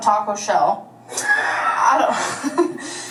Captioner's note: laughs